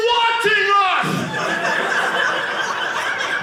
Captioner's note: audience laughing